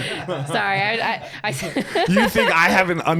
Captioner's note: both laughing